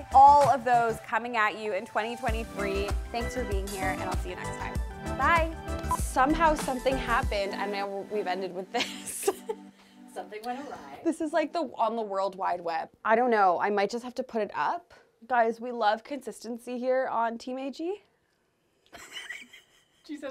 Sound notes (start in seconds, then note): 5.8 tone beeps; 8.7 laughing; 18.9 laughing